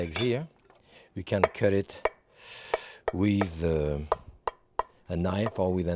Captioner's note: knife tapping